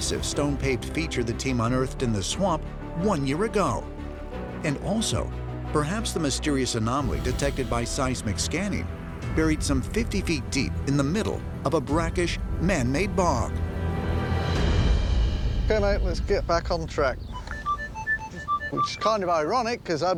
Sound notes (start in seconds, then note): 17.2 beeping